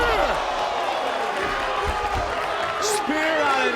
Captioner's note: body thudding; audience gasping